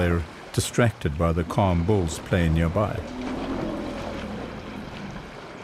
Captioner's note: animals calling